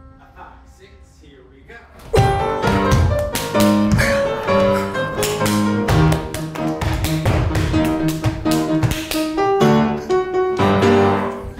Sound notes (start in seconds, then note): 2.2 classical piano music; 3.1 hands clapping; 3.9 feet stomping; 4.8 classical piano music